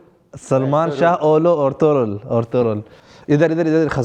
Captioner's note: Turkish